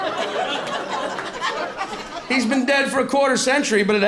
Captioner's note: laughter